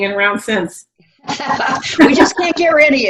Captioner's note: laughs